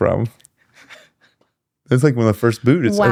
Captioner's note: laughs